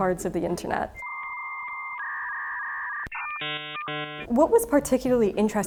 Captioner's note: internet dial-up screeching